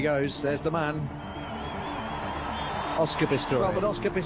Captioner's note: spectators cheering